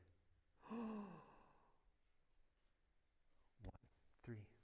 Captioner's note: gasp